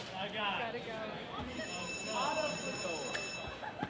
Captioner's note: bell ringing